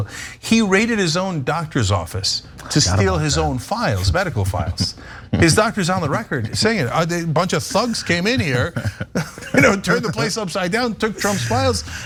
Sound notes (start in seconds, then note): 5.3 laugh